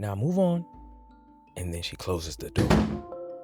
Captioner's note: door shuts